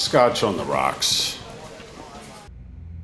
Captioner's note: phone ringing